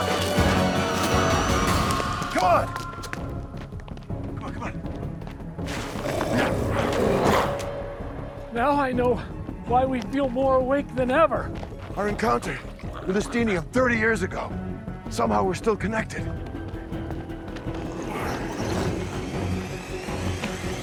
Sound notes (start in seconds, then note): 0.1 dramatic music continues; 5.6 glowzies growling; 18.1 intense music